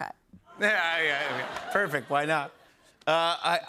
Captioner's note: laughter